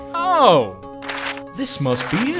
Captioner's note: papers rustle